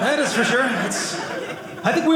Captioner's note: audience laughing